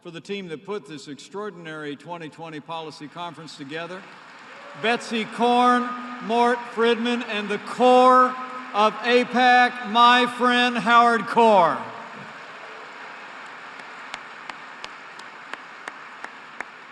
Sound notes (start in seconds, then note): 3.0 applause; 12.3 applause